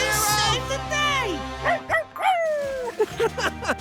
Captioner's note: barking; laughing